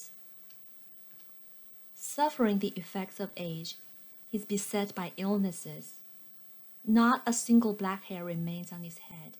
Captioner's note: click